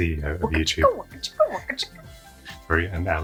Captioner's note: scratching record